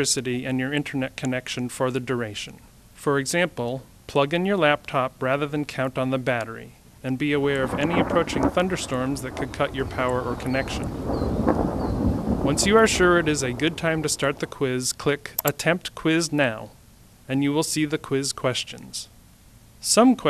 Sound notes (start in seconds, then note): 10.8 sound of thunder in background